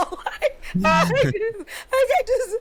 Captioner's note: laughing